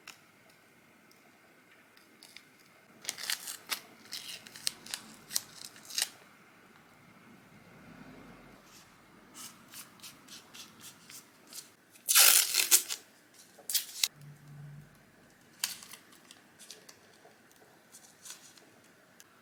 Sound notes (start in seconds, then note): 4.0 sticky sounds as the tape is unstuck and re-stuck; 12.0 sticky tape tears; 15.8 sticky sounds